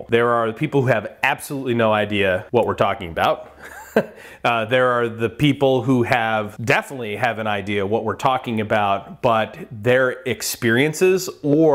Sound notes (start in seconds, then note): 3.6 laughs